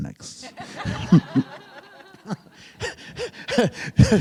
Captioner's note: group laughing